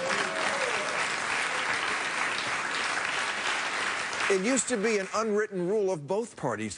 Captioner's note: applause